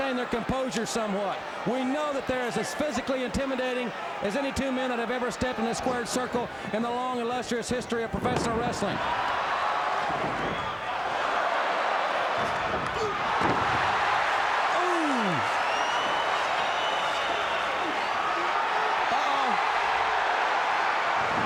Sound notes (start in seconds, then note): 10.8 crowd oohing